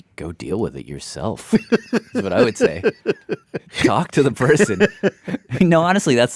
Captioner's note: laughs